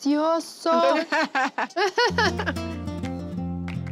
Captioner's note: laughter